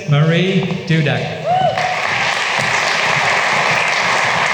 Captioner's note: applause